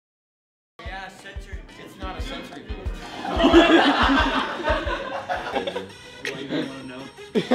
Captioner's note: class laughs